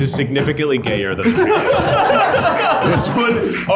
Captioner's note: everyone laughs